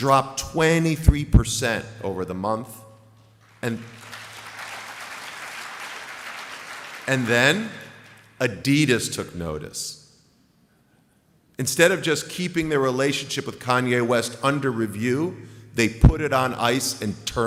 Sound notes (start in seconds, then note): 6.3 applause